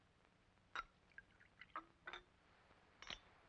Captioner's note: liquid pours